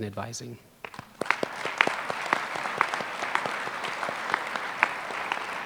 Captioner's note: applause